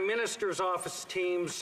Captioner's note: applause